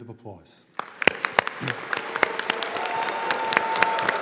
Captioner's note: all applauding